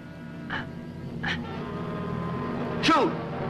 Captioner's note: soft grunting